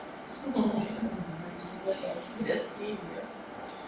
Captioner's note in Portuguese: risos